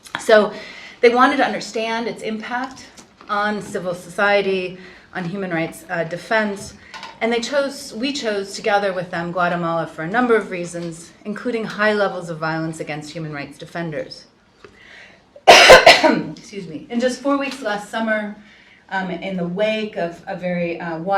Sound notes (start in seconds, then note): 15.4 coughs